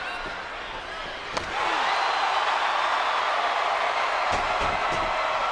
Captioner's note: audience roaring